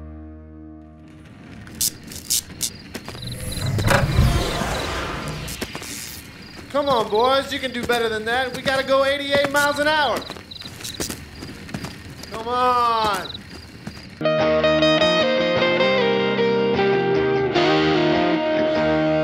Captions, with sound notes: (tires crunching) (cicadas chirping) (car whooshes) - Come on, boys, you can do better than that We gotta go 88 miles an hour. (cicadas chirping) Come on. (lilting country music)